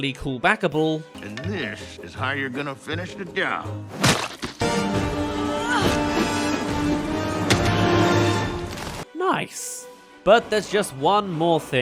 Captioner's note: throw* *Smack